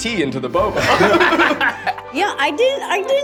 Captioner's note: laughter